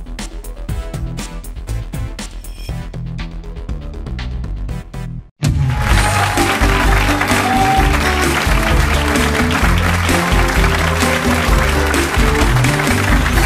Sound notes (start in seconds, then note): 5.7 audience clapping; 5.8 bright music